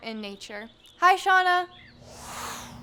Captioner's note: air whooshing